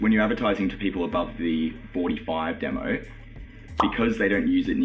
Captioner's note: pop